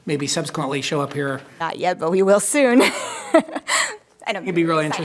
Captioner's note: laughs